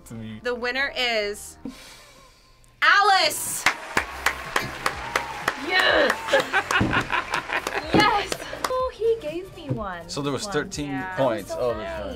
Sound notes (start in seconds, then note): 3.5 clapping; 6.2 laughing